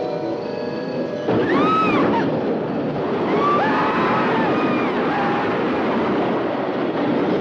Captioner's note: roller coaster rattling; people screaming